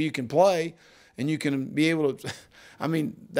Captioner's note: chuckles